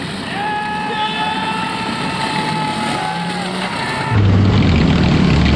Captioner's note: sideline cheering